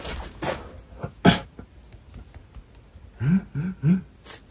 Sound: foot steps

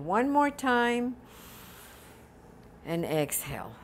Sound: deep breathing

